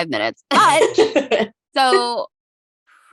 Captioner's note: laughing